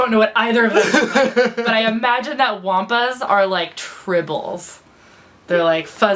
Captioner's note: laughs